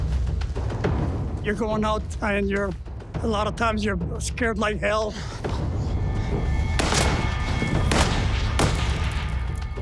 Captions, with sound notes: (tense music) You're going out and a lot of times you're scared like hell. (gunfire)